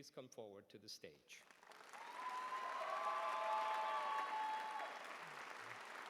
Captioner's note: applause